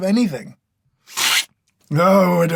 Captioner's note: slurp